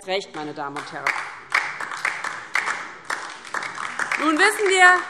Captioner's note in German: Beifall DIE LINKE